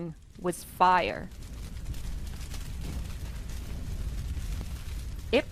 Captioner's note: fire whooshing